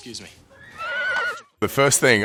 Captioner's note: horse neighing